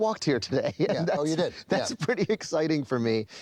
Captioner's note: chuckles